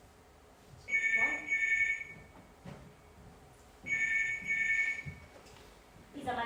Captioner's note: phone rings